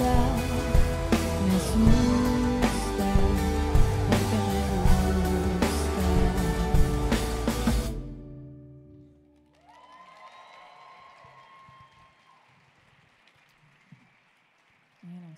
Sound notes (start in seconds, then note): 9.3 audience applauding; 9.4 audience cheering